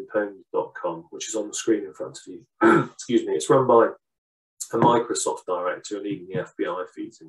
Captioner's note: clears throat